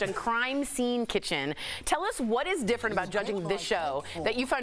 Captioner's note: laughter